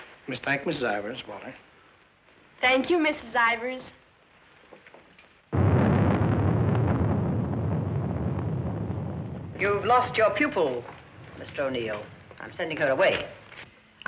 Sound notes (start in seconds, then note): 5.5 thunder